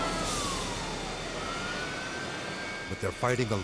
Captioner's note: siren blaring; water blasting